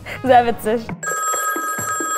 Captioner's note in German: Telefonklingeln